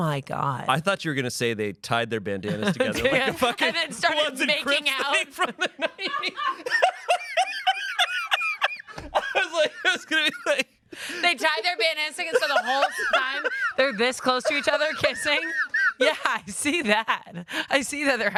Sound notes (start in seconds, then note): 5.7 laughing